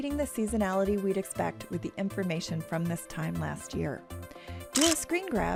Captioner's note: camera shutter sound